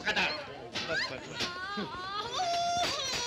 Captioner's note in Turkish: kadinin çiğlik sesleri̇